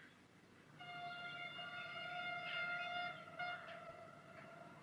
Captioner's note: train Whistle Blows